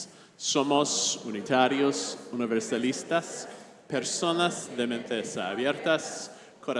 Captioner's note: congregation speaking in foreign language